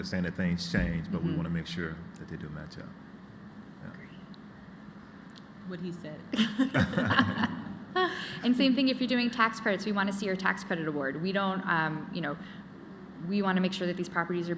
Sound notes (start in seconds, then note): 6.3 laughter